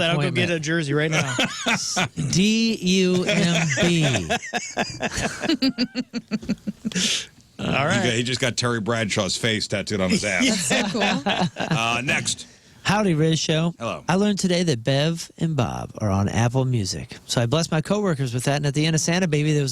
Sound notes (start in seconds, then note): 5.4 laughing